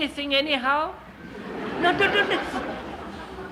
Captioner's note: laughter